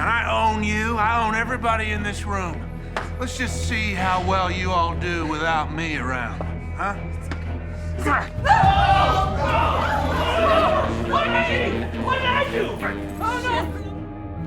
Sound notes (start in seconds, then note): 8.0 people shouting; 8.1 Alexa grunting